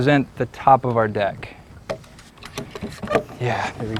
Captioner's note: clamps squeaking, no additional audio